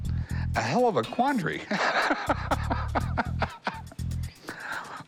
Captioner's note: laughs